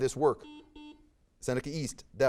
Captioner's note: buzzer beeps